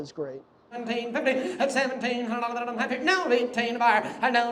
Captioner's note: auctioneer chanting